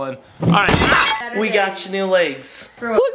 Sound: glass breaking

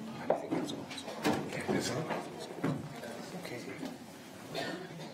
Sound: councilors chatting

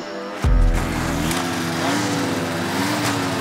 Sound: engine turns on

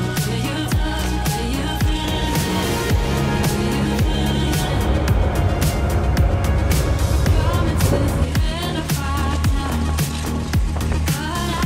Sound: leaves crunching; wind blowing

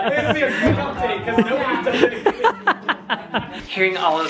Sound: laughs

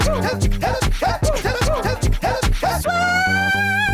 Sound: woo woo; woo woo

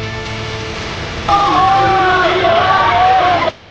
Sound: people shouting & cheering

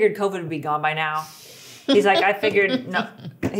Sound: laughing

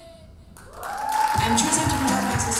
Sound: audience applauding

